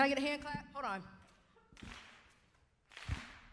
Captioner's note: rhythmic clapping